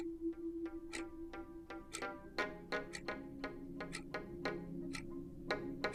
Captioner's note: eerie dramatic music continues; clock ticking continues